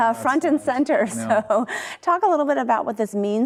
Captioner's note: chuckles